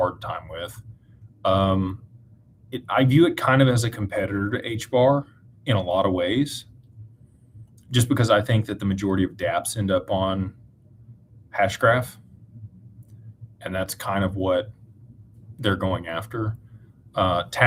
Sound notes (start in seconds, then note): none